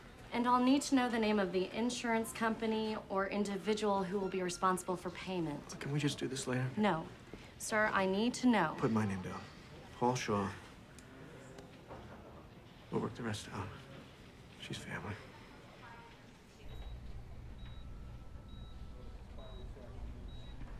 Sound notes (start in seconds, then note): 16.6 monitor beeping